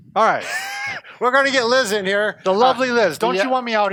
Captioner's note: laughs